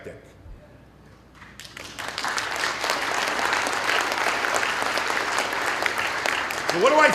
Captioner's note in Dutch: Applaus